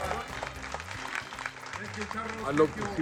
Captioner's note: clapping and Cheering